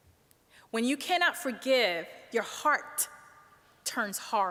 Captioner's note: none